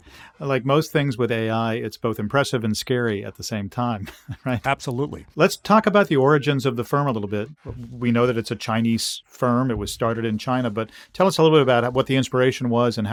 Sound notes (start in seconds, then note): 4.0 chuckling